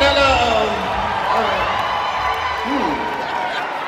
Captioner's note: audience cheering